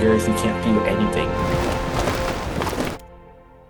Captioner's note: snow splattering; wind howling